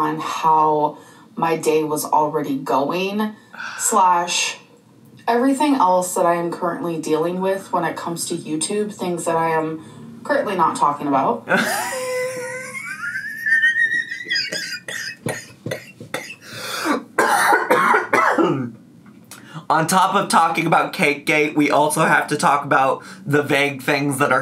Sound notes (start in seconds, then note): 11.6 wheezing; 14.0 coughing